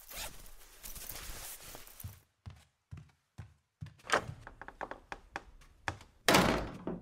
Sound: door opens

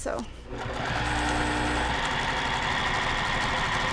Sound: machine whirring

